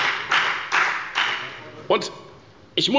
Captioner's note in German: Beifall bei der FDP